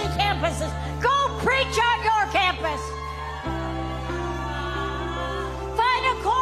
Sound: audience cheering

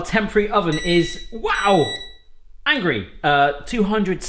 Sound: electronic beeping

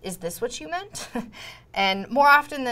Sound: laughter

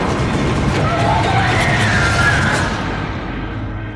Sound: screaming

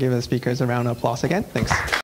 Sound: clapping

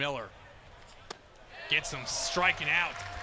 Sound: ball hitting glove

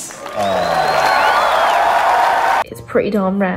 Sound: crowd cheers

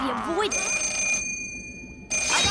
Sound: phone ringing

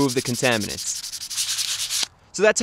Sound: sanding noises

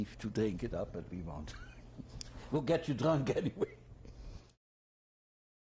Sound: laughs

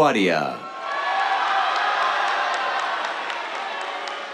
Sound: cheers, applause

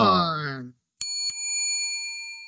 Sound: bell dings

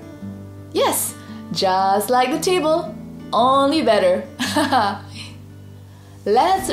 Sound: laughs

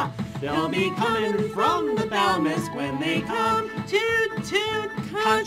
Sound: toot-toot!

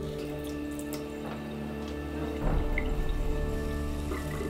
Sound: water burbling

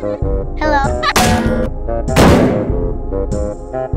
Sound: bang, Crash

